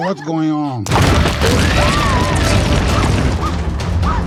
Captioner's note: loud explosion